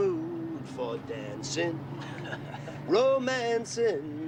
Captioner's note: risas